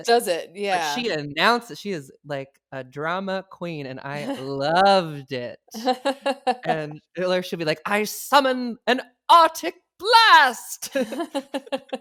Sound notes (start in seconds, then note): 6.0 laughs